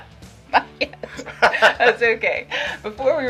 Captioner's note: laughing